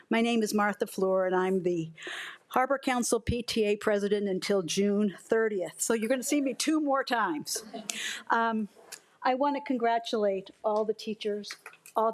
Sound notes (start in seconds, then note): 8.0 attendees laugh